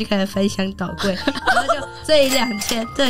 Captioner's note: hahaha~~